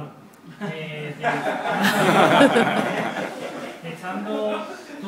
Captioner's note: laugh